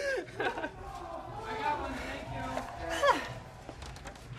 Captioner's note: laughter